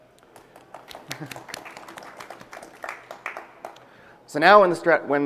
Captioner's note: applause